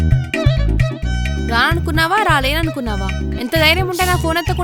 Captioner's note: hits